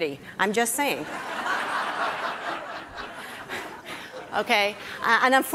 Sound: audience laughing

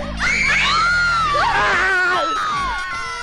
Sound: screaming

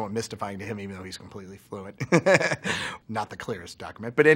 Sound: laughs

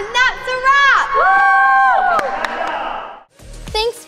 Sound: kids cheering and clapping

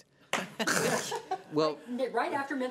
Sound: laughs

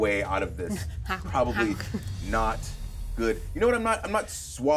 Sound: chuckles

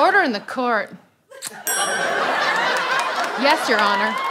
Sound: kiss

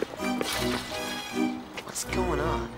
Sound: fence rattling

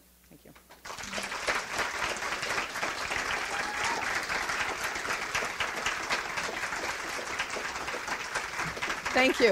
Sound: audience applauds

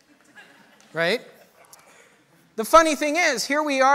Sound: audience laughter

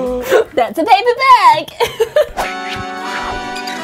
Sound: laughs; cheerful music

